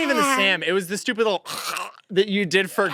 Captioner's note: growl